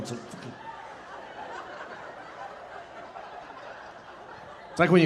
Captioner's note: audience laughing